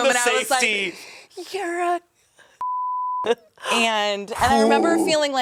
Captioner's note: beep